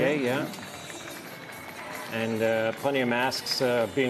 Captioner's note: applause